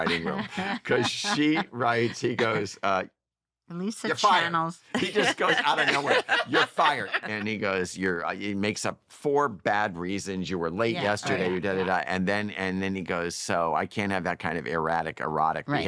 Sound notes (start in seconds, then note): 4.9 laughter